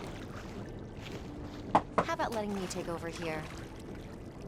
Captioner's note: knocks on door